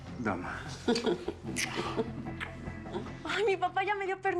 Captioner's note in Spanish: risas